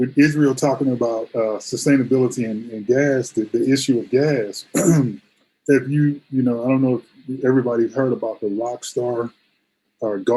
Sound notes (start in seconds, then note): 5.0 clears throat